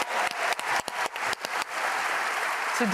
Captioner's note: applause